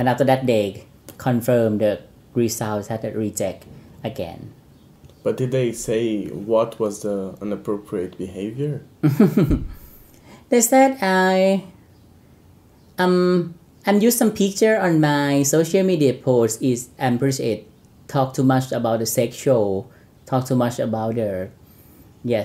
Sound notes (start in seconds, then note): 9.0 laughs